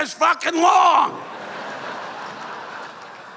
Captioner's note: laughter